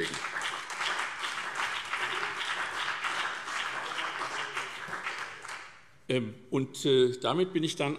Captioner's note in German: Beifall SPD und vereinzelt BÜNDNIS 90/DIE GRÜNEN